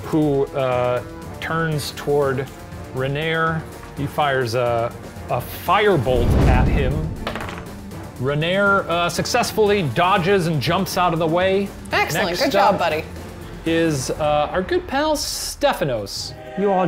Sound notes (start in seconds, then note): 7.2 clattering